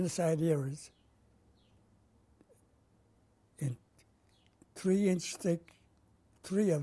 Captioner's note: pauses for 3 seconds